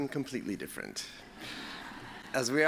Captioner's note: laughter